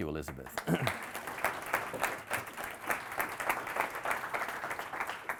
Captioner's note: audience applauding